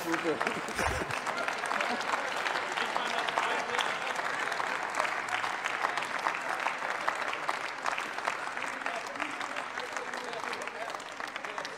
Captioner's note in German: Applaus